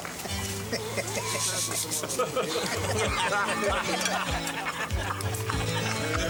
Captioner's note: light-hearted music; men chuckling